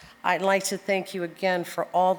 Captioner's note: none